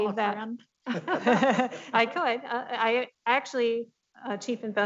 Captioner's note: laughing